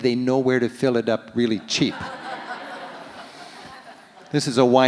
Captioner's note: audience laughs